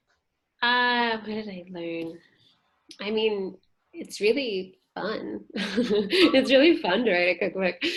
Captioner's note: laughter